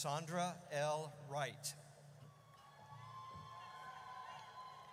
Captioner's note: audience cheers